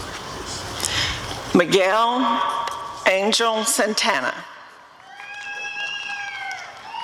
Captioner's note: applause and cheering